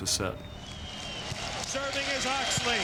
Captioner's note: crowd cheering